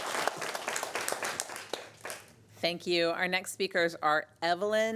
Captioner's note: applause